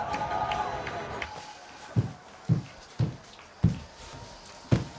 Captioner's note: footsteps thudding